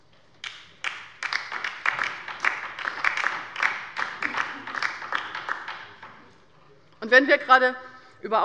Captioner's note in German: Beifall bei der LINKEN